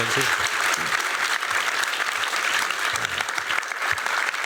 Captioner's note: applause